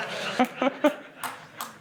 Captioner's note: laughter